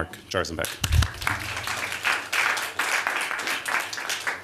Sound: applause

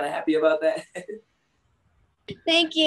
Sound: laughs

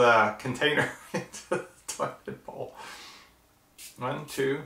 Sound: laughing

